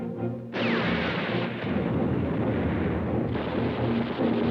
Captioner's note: bombs exploding